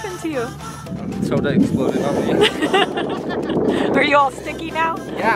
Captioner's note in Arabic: ضحكات خافتة